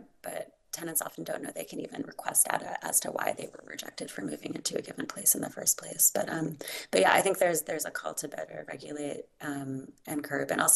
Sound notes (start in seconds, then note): none